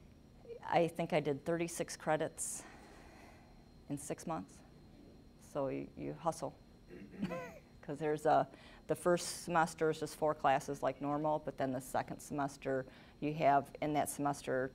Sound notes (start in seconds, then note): 7.2 chuckling